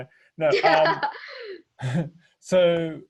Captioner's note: laughing